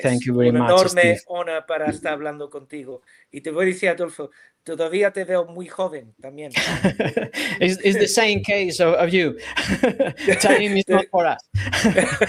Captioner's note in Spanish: risas